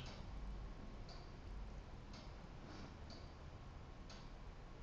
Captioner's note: clock ticking